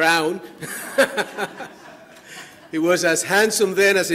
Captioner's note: audience laughing